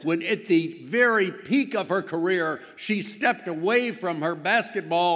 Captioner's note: none